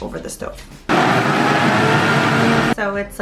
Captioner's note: blender whirring